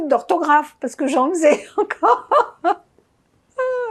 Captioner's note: laughing